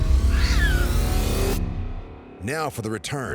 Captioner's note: growl